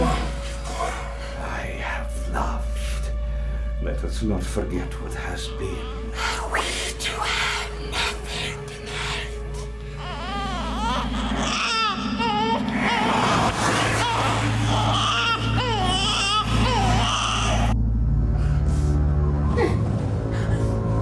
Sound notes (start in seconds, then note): 11.7 baby cries; 18.5 eerie music